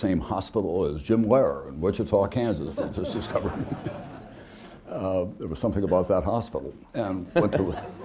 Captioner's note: laughter